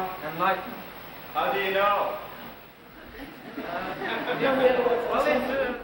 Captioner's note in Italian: risate